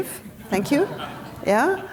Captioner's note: audience members laughing